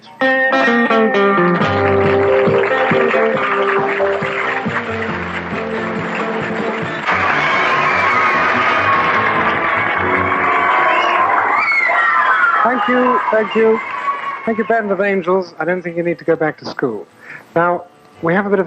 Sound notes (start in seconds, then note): 7.1 screams and applause